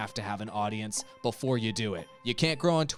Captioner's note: melodic timer